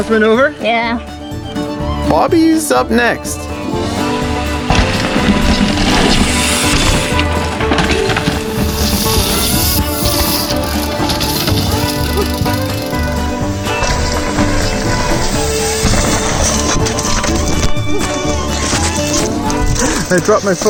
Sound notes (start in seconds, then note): 5.7 bike tires on trail; 7.8 fast fiddle music; 11.6 bike crashing into trees; 12.4 fast fiddle music; 16.9 crashing in trees